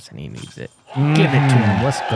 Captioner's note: cheering